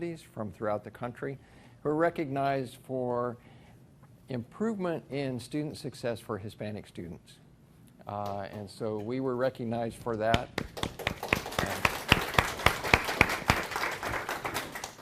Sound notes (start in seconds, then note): 10.6 everyone applauds